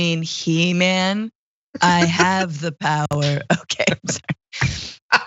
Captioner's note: laugh